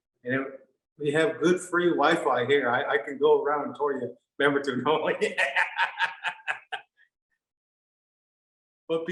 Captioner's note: laughing